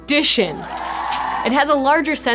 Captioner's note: crowd cheering